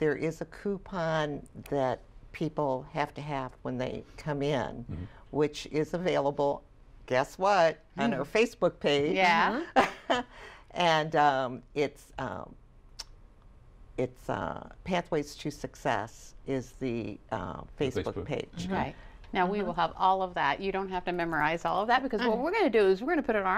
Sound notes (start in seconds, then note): 9.6 laughter